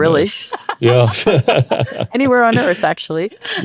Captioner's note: both laugh